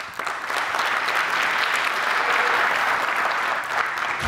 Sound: applause

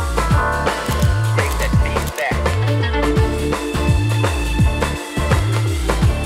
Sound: camera clicking

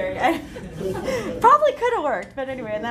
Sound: laughter

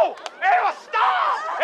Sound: slap

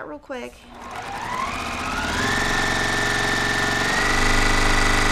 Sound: sewing machine whirring

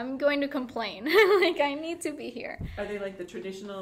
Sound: laughing

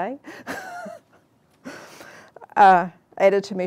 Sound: laughs

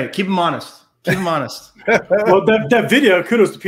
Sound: laughs

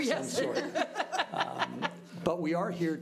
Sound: laughing

